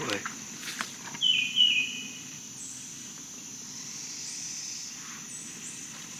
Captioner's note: birds and bugs chirping